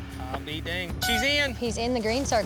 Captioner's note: horn blows